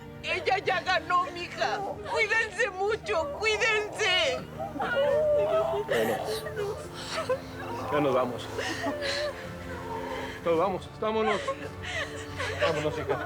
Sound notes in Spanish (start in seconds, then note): 5.0 Sollozos